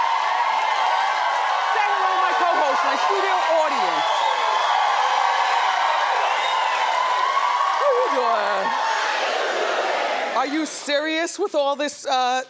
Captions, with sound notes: Say hello to my cohost, my studio audience. (audience cheers) How you doin'? How you doin'? Are you serious with all this?